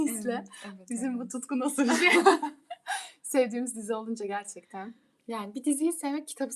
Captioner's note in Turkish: kahkaha